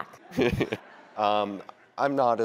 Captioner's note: audience laughs